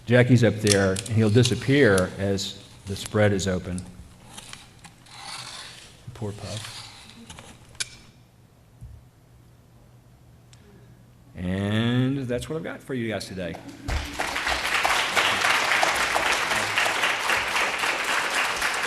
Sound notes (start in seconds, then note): 5.0 paper creaking; 13.8 applause